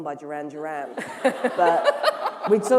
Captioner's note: laughter